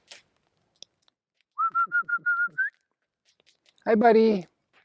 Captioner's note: whistling